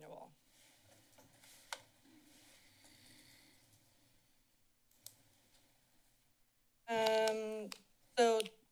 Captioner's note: silence